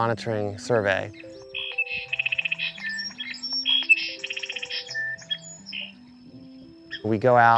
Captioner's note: recorded bird calls play